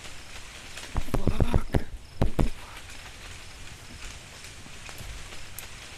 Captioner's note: taps camera; leaves rustling